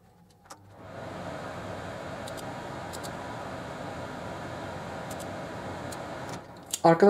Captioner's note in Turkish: Aspiratör sesi